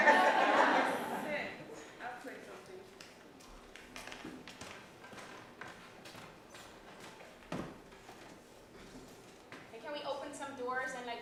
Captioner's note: laughter